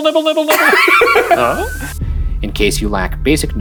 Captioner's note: laughing